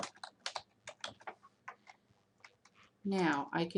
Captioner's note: typing